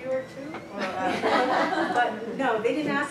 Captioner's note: laughter